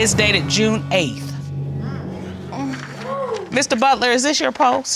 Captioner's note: audience exclaiming